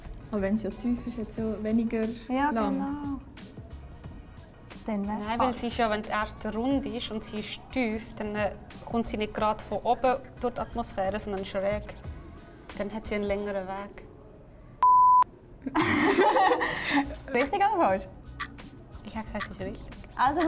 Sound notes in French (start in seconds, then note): 14.8 Bip; 15.6 Rires